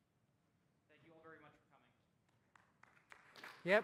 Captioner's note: applause